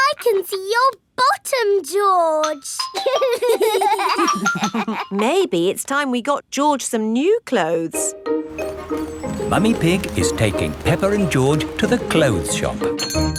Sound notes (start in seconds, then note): 3.0 giggling